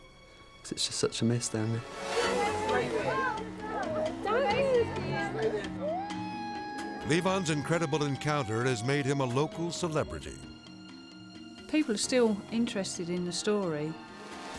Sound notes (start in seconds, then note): 2.1 people clamoring; 3.0 crying